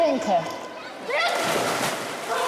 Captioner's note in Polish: plusk wody